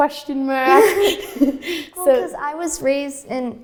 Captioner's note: laughing